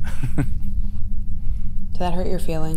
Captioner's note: laughs